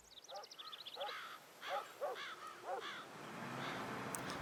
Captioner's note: bird calling